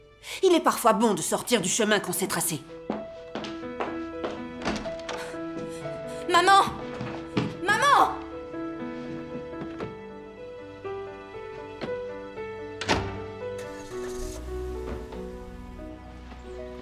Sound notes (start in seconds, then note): 13.6 engine starting